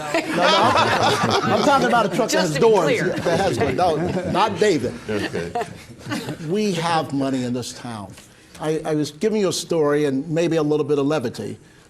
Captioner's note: laughter